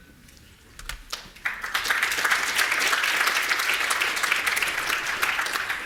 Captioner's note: audience applauding